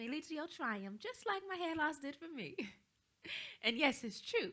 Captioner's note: chuckles